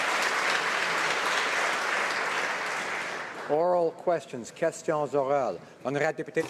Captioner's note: applause